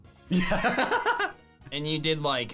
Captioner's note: laughing